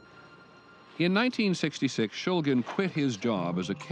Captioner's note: voiceover